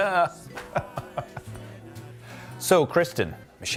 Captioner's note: laughter